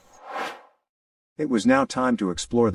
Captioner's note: air swooshes